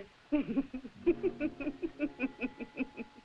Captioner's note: laughing